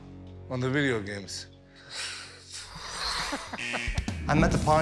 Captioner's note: scoffs